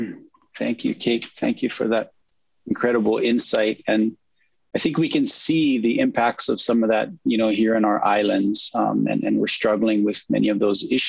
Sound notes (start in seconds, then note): none